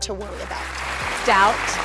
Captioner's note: crowd applauding